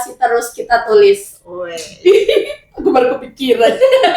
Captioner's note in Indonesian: tertawa